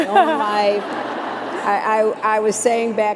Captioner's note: laughter